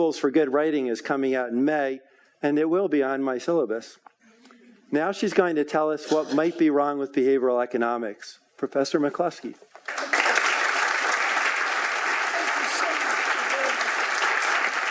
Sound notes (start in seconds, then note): 9.8 audience applauding